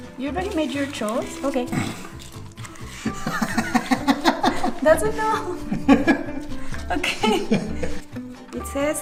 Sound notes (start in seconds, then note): 3.0 laughing